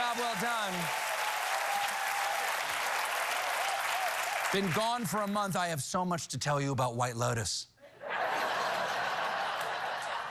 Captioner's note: cheers and applause